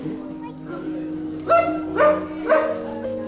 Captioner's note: dog barking; gentle music